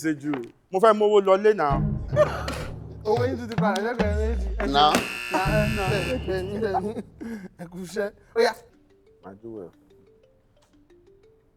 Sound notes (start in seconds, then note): 4.8 buzzer pressed